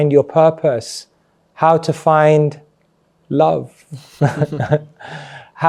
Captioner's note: laughs